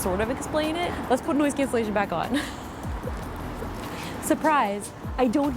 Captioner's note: laughs